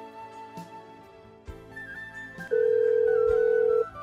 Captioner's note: phone ringing